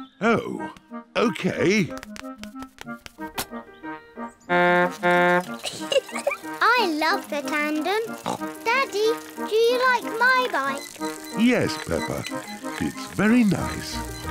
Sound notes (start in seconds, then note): 5.1 toots horn and giggles; 8.1 snorts